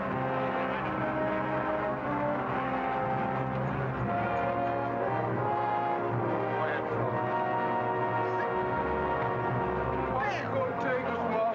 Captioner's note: suspenseful music; passengers murmuring